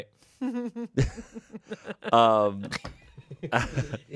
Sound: laughs

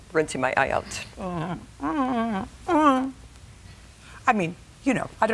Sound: whimpering

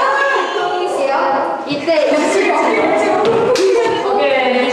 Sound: hahahaha

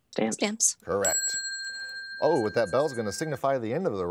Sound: bell chimes

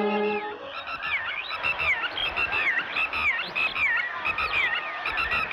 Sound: birds Chirping

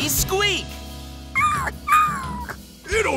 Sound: whimpering

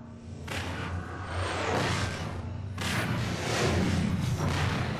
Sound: digitized landslide sounds

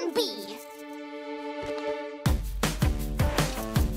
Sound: cajun accent

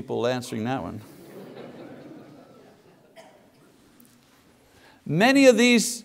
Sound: congregation laughs

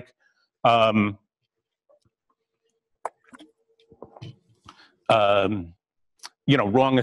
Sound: pause

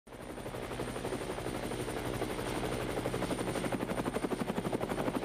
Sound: helicopter in flight

